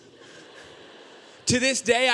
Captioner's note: audience laughing